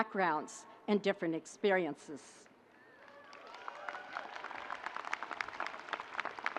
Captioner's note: audience cheering